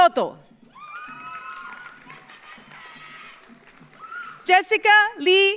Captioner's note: audience cheers; audience applauds